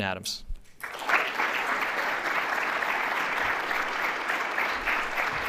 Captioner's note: applause